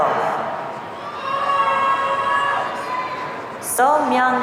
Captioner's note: audience cheering